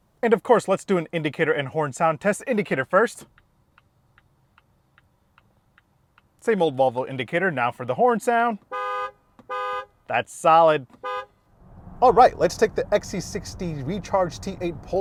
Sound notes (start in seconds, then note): 4.4 indicator ticking; 9.4 horn honking; 11.0 horn honks